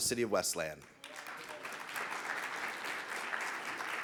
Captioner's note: audience clapping